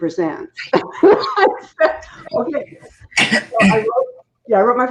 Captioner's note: laughing